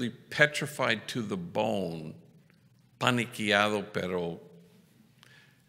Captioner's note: foreign language